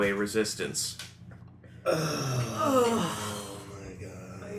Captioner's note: sighs of grief